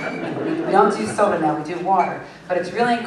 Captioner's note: laughter